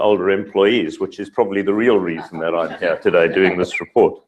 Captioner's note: laugh